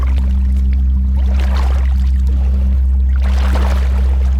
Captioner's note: water plopping